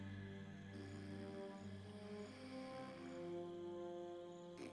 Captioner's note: men snoring